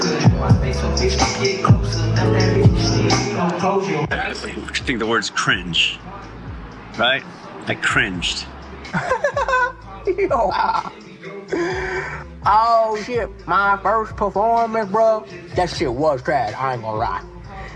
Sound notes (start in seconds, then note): 8.9 laughing